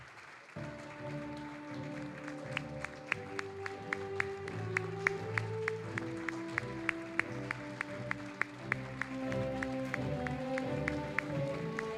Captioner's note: applause